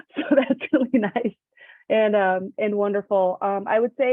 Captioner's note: laughs